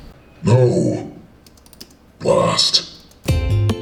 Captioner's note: voice On Computer; lively acoustic guitar music